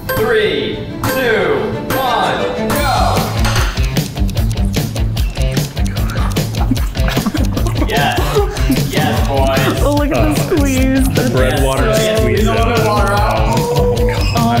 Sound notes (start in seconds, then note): 2.9 clock ticks; 2.9 intense rock music playing